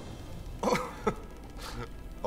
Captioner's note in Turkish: Vasilius gülme sesi